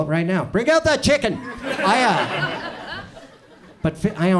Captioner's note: audience chuckles